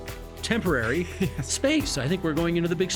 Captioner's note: chuckling